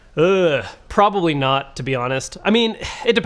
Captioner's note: groans